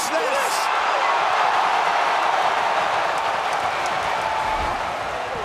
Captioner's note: audience cheers